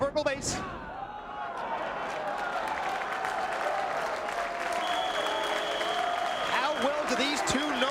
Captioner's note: applause